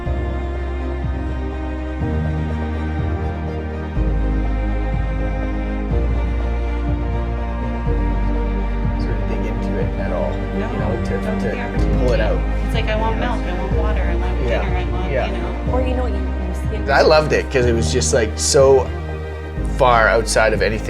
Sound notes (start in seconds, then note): 0.2 mellow music; 9.0 distant background conversation